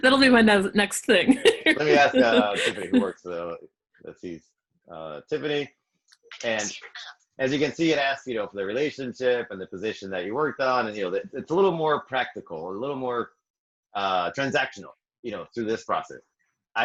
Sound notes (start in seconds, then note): 1.1 laughing; 2.4 speaking faintly